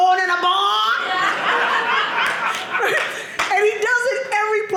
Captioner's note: audience laughing